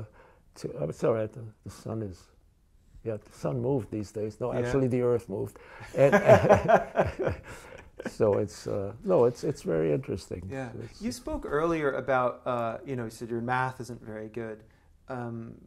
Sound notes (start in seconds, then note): 5.8 laughter